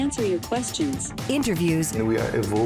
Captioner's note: voiceover